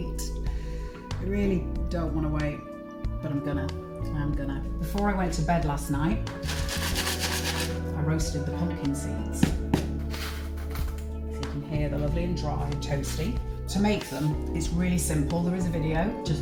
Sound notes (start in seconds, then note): 11.6 sound of crispy seeds